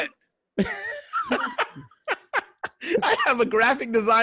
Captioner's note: laughing